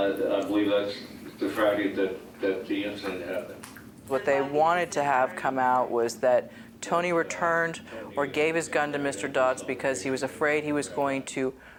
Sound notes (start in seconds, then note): 4.1 asst. DA speaks faintly